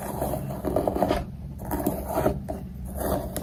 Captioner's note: continued with only ASMR sound